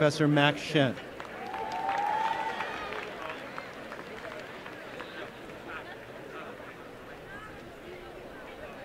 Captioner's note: applause